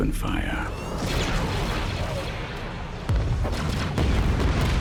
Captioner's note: blasters firing